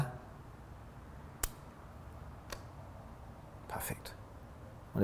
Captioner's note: click